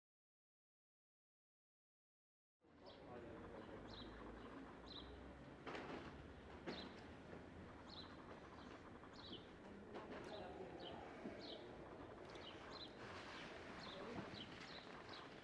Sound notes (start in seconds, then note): 2.8 birds chirping